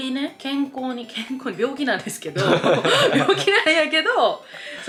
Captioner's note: laughter